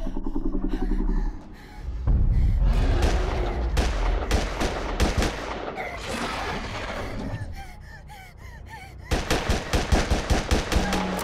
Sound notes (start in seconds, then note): 1.0 gun fires; 3.5 dinosaur growls; 9.1 gun fires